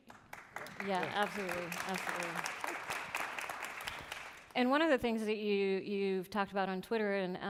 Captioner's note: applause